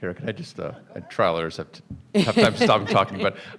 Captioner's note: people chuckling